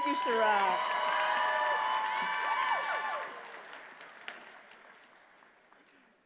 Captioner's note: attendees applauding and cheering